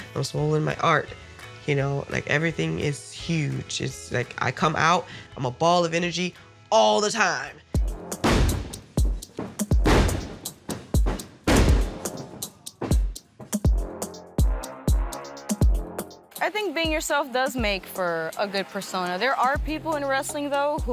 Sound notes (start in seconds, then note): 8.0 body slams; 8.0 dynamic music